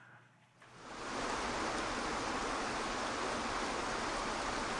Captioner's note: waterfall splashing